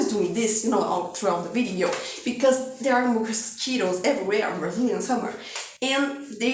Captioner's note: scratching